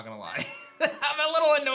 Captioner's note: chuckles